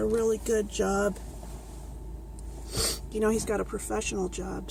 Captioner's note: sniffs